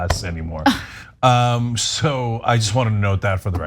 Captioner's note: laugh